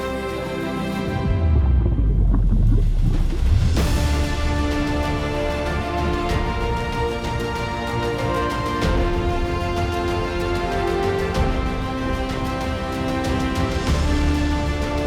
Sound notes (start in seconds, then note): 0.9 lava flowing